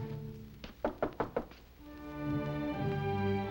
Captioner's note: knocking